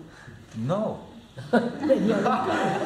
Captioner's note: laughter